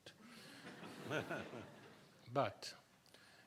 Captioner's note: people laughing